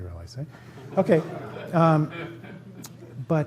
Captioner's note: laughter